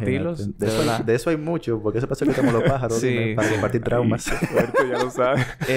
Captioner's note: laughs; laughs